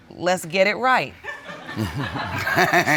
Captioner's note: laughter